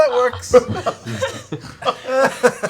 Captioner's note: laughter